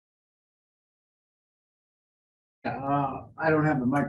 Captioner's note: pause